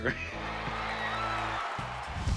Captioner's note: cheers